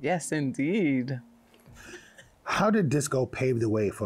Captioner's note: laughs